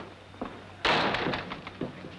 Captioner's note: door slams